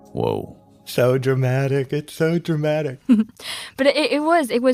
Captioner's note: laughs